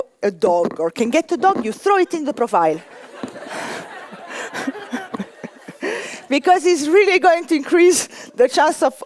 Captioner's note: laughter